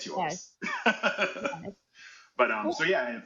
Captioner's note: laughing